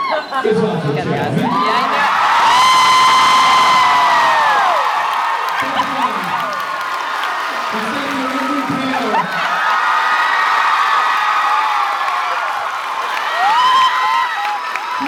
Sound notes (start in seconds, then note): 1.4 cheers, applauds; 9.3 cheers, applauds